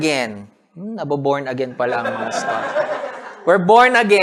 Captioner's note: laughter